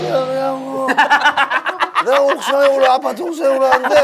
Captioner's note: laughing